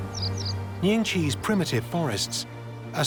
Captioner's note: birds singing